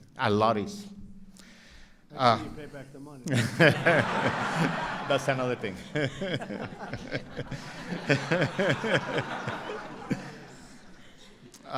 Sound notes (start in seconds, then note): 3.4 laughter